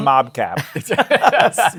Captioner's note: laughter